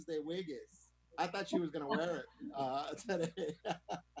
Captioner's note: laughs